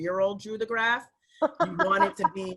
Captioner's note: laughing